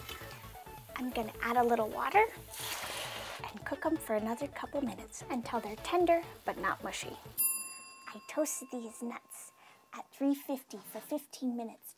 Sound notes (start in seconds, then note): 7.7 timer dinging